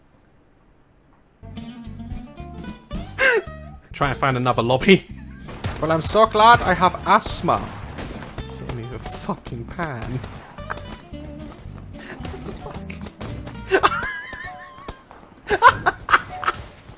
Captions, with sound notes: (normal voice) I'll try and find another lobby. (German accent) Vell, I'm so glad I have asthma. (normal voice) He's hitting me with a fucking pan. *laughs* What the fuck? *laughs*